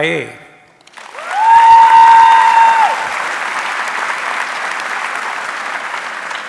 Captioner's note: audience cheering and applauding